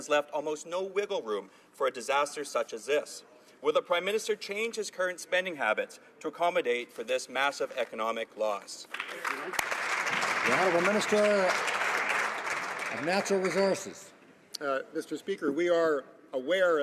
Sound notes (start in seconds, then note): 13.3 some Applause